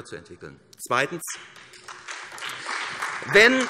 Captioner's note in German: Beifall SPD